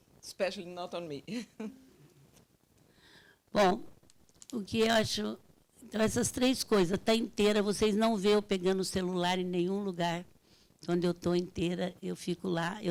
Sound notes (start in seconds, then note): 2.8 laughs; 3.7 speaking Portuguese